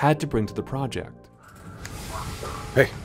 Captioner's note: fingers Snap